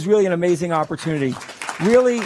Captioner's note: applause